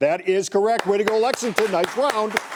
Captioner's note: fans clapping